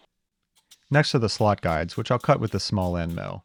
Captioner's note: pressurized air hissing